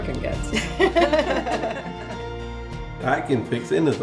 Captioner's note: laughing